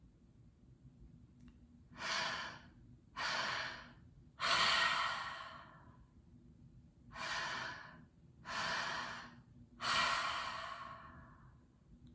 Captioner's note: breathing